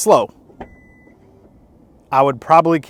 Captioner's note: tailgate opening